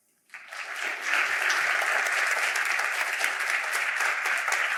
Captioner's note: applause